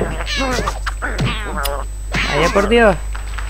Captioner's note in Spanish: chasquido de auto-decepción